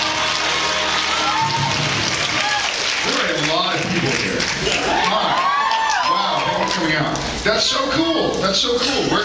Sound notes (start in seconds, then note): 0.0 audience cheers and applauds; 6.2 audience cheers